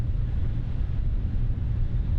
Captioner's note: none